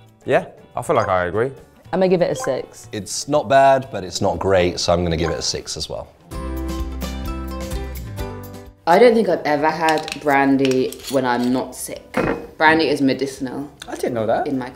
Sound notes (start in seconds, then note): 6.2 lively music; 9.9 bottle cap cracking; 12.2 glass thuds